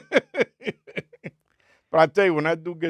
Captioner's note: laughing